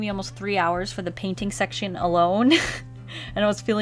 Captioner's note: short laugh